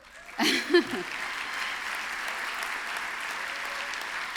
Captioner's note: applause